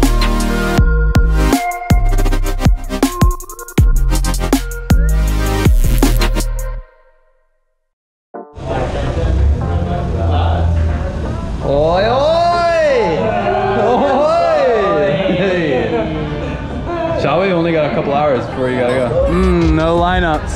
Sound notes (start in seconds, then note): 8.9 background talking; 13.2 laughing